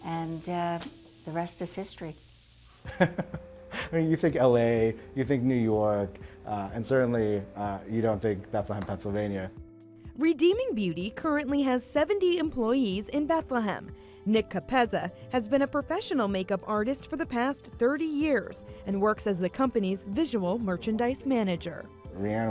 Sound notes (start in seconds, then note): 2.9 laughs